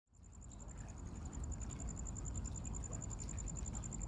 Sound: cricket chirping

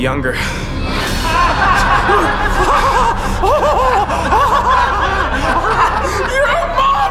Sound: laughing

